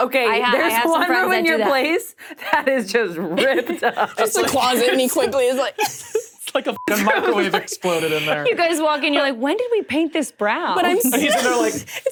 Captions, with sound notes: - Okay, that in your place that is just ripped up. - The closet and he quickly is like. - It's like a (beep) microwave exploded in there. - You guys walk in, you're like, when did we paint this brown? - But I'm like- - No like.